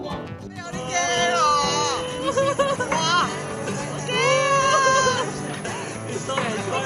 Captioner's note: screams